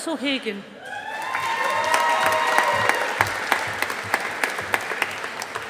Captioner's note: audience applauding